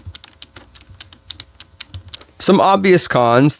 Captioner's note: buttons clicking